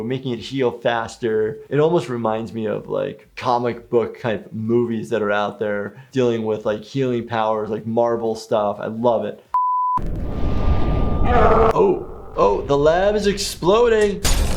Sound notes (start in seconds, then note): 9.5 beep; 14.2 glass breaking